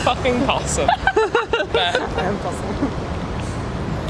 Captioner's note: laugh